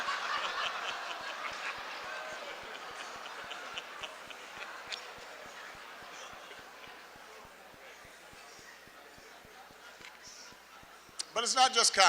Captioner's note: applause; laughter